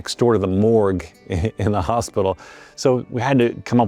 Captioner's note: chuckles